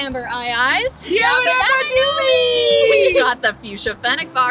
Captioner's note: yell YABBA DABBA DOOBIE